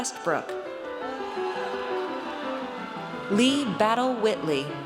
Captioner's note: audience cheers